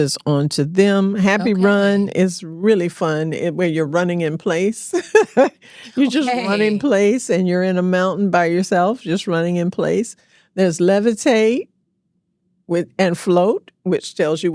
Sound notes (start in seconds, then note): 5.6 laughs